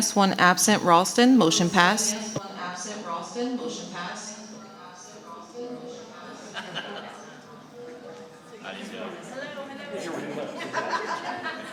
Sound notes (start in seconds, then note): 3.1 audio feedback echo reverberates